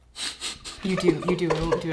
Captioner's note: laughing